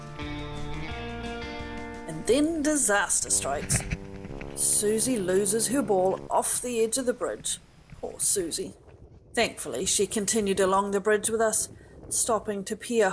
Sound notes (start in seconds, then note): 3.6 sad noise